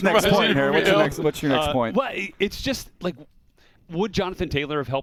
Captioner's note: laughs